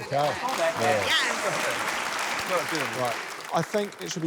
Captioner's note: applause